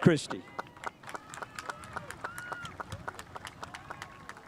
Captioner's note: spectators applauding